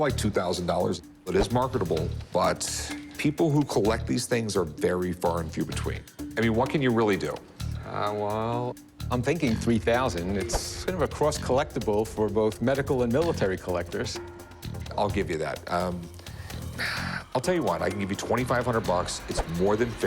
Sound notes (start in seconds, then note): none